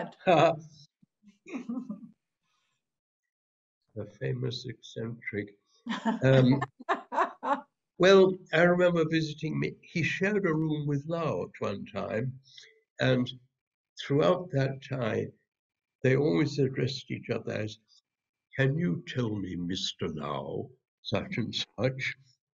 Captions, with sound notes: The famous eccentric. [LAUGHTER] Well, I remember visiting him. He shared a room with Lau at one time, and throughout that time, they always addressed each other as, can you tell me Mr. Lau such-and-such?